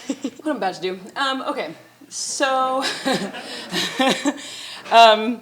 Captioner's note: chuckles